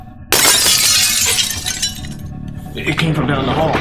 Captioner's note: glass shattering